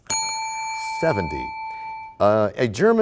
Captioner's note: bell rings, time expires